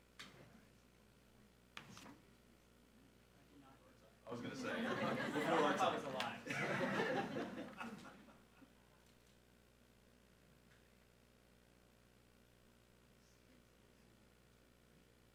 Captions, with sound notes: I was gonna say. - Was a lie. (all laughing)